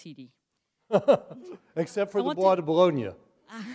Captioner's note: laughter